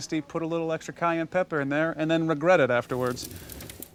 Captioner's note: flames